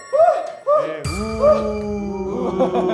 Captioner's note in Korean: 큰 환호